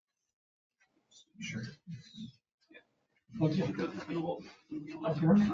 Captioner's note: people speak distantly